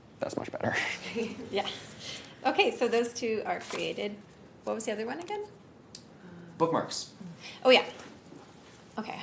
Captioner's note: laugh